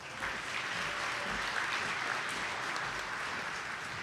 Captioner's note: attendees clapping